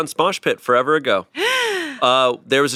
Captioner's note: gasps